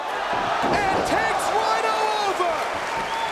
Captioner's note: spectators exclaiming; spectators cheering and applauding